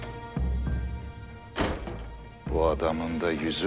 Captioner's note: door Knocking sound